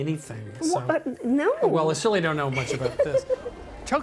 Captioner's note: laughing